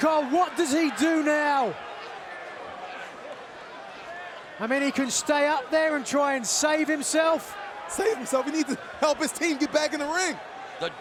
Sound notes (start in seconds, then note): 2.5 fans chattering